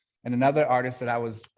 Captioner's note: none